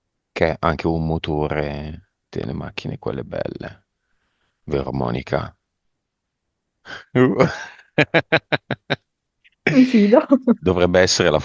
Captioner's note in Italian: risate